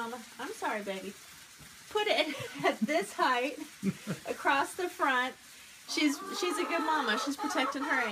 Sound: laughing

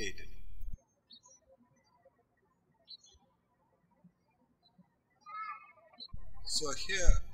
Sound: birds chirping

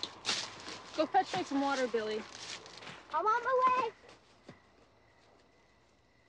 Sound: none

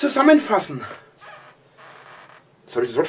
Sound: floor boards creak

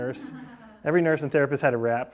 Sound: class laughing

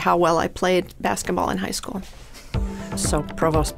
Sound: chuckling

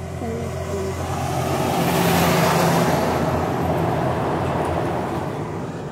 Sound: truck engine droning

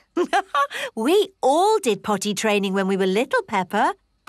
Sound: laughs

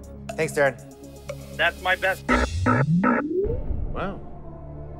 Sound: buzzer

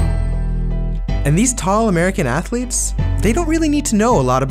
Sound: voiceover

